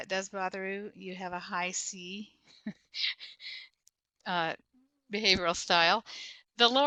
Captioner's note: chuckles